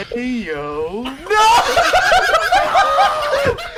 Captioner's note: dies laughing